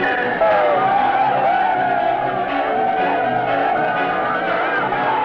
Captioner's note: men shouting